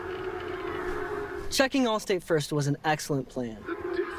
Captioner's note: football on TV